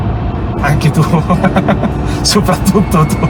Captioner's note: laughter